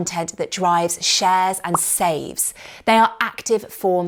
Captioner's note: popping